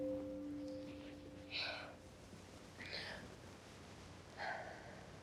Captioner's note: Tracy sighs